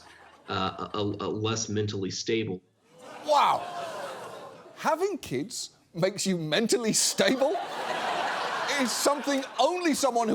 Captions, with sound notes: less mentally stable. -Wow! -(STUDIO AUDIENCE GROANING) "Having kids makes you mentally stable..." (STUDIO AUDIENCE LAUGHING) ...is something only someone